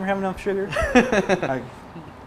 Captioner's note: laughter